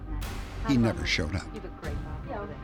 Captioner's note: lively chatter